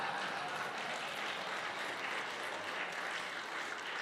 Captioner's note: applause